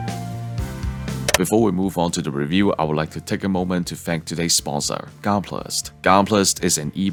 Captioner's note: pause Click